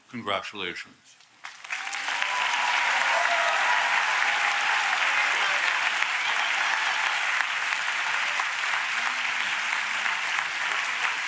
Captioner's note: applause